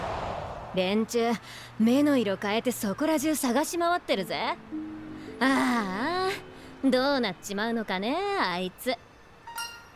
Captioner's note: sigh